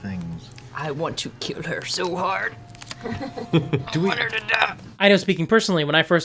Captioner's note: strained